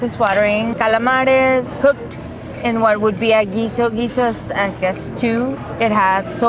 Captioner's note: speak in Spanish